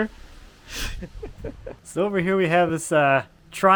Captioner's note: chuckling